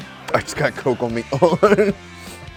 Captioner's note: laughs